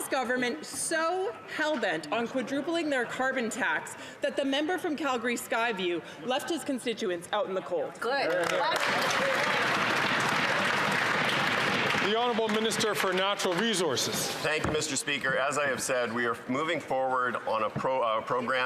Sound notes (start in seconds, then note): 12.1 applause